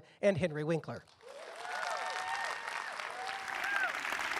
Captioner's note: applause